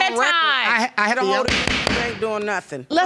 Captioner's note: gavel banging